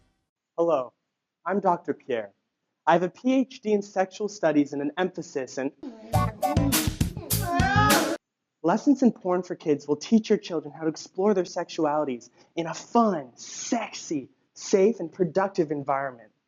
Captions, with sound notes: Hello. I'm Dr. Pierre. I have a PhD in sexual studies and an emphasis in - (moaning and yelling) Lessons in Porn4Kids will teach your children how to explore their sexualities in a fun, sexy, safe, and productive environment.